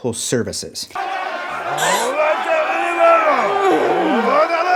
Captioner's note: people exclaiming